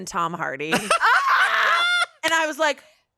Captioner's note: everyone laughs